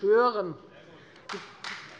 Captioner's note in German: Beifall Freie Demokraten